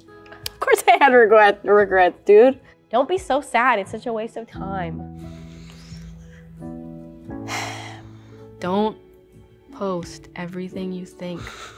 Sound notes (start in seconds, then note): 7.4 sighs